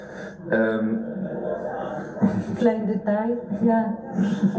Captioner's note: laughter